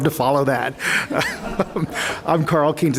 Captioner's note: laughter